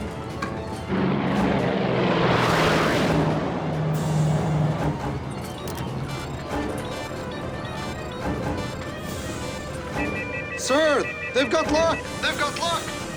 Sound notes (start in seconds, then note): 0.1 airplane roaring; 1.0 missile whooshing; 5.8 cube beeping